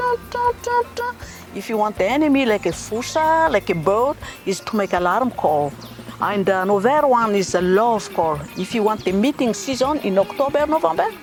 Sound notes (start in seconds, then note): 6.7 lemurs making sounds